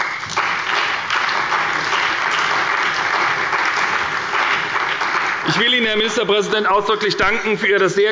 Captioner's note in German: Beifall bei der SPD und dem BÜNDNIS 90/DIE GRÜNEN sowie bei Abgeordneten der CDU